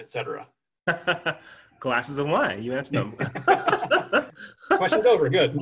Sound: laugh

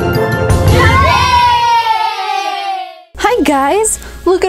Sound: upbeat music; kids cheering

